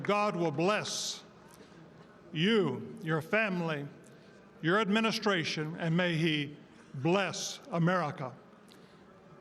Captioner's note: applause